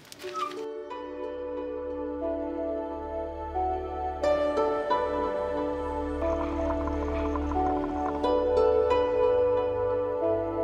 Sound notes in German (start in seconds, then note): 0.6 Andächtige Musik; 5.3 Leises Blubbern